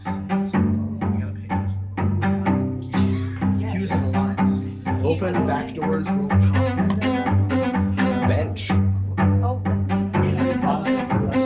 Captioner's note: students chatting